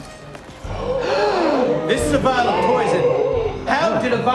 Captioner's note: gasps